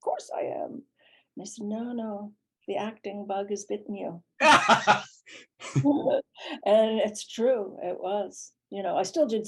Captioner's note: laughter